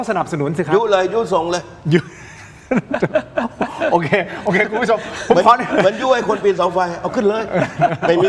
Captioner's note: laughs